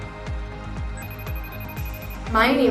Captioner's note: phone rings